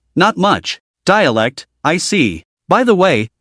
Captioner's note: dialect